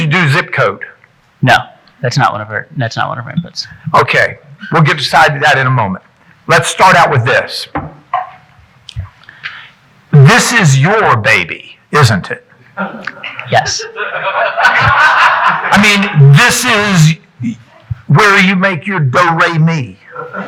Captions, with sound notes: You do zip code. - No, that's not one of our inputs. - Okay. We'll get to decide that in a moment. Let's start out with this. This is your baby, isn't it? (audience chuckling) - Yes. (audience laughing) - I mean, this is where you make your do-re-mi.